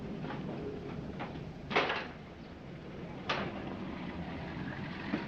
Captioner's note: object clattering